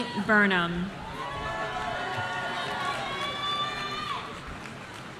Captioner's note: audience cheering